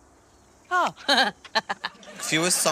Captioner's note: chuckles